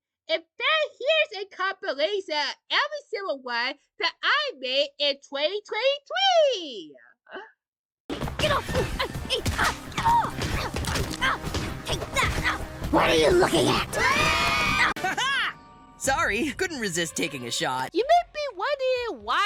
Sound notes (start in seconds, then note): 13.0 screams